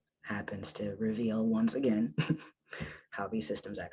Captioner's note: chuckles